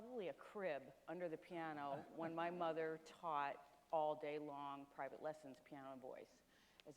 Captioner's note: Dr. Francis Collins chuckles